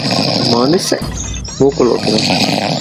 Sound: snores

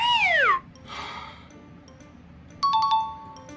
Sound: sighs angrily

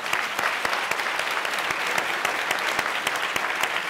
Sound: applause

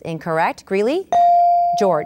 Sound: ding

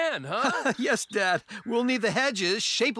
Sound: chuckles

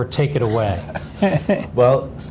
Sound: laughs

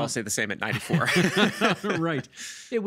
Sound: both laughing

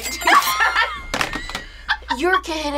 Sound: laughing; whiteboard clattering

